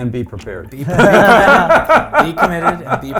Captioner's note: laughing